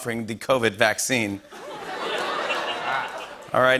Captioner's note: laughter and applause